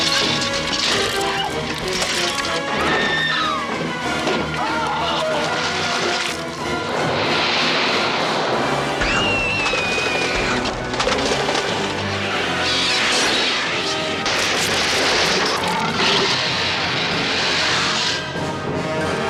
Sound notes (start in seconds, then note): 0.0 gunshots; 0.7 dramatic Music; 0.8 gunshot; 0.8 dramatic Music; 0.8 gunshot; 1.1 screaming